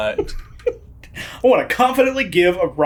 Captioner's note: laughing